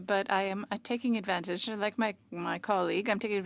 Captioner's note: speaking French